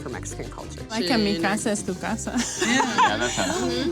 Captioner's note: speaks in foreign language; laughs